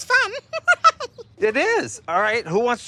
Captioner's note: laughs